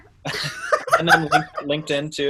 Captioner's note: laughs